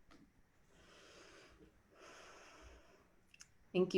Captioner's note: sighs